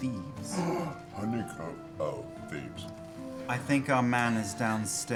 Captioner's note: gasps excitedly